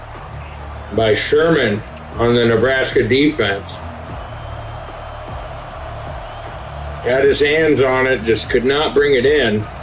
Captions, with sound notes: by Sherman on the Nebraska defense. (crowd cheering) Got his hands on it, just could not bring it in.